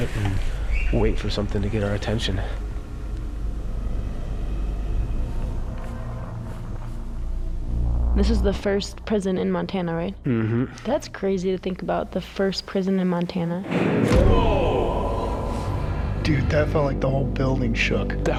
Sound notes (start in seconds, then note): 13.6 banging